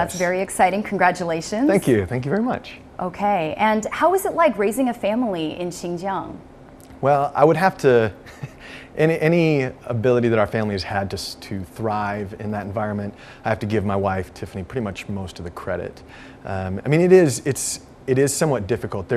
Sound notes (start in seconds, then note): 8.2 laughs